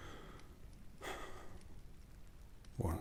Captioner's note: sighs